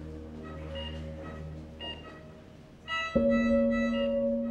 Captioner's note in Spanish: Bip del monitor